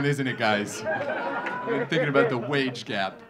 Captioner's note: audience laughing